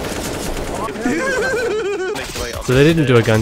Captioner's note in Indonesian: huehuheheuaheauhuea